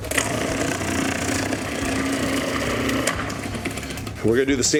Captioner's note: food processor whirling